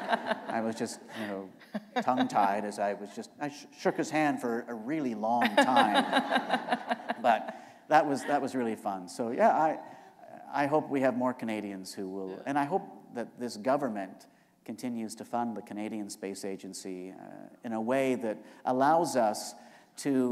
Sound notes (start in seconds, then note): 5.4 laughter